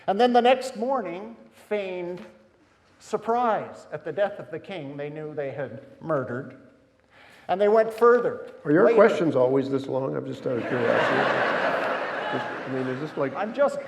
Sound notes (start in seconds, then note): 10.4 audience laughing